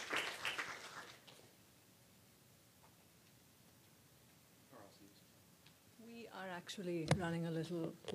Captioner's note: applause